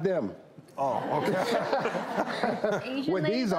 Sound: audience laughs

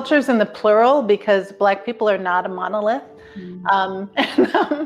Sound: chuckling

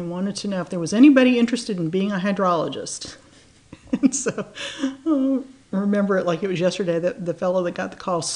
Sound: laughs

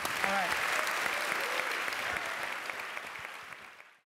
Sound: applause

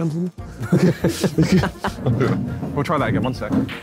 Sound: all laughing

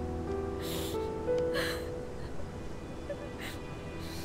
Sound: Googly sobbing

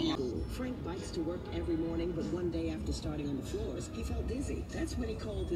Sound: radio chatter

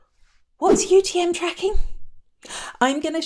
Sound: air whooshing

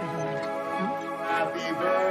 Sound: mumbling and chatter

